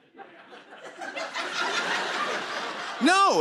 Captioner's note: laughter